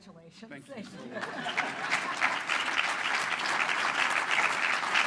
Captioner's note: applause